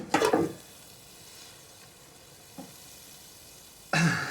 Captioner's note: sizzling